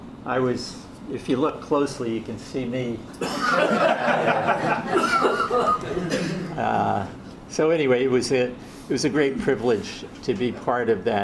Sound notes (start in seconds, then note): 3.4 audience laughs